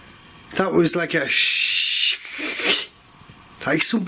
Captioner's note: hissing